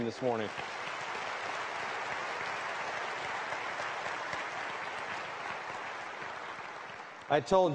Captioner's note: applause